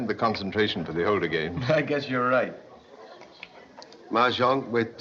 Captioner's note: chuckles